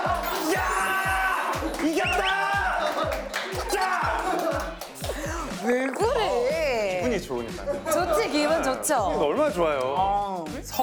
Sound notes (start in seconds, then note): 0.0 shout of victory